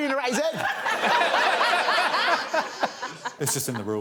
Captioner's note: all laughing